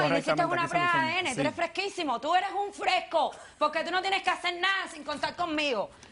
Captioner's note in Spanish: Hablan al unísono